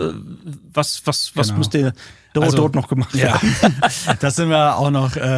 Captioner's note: lacht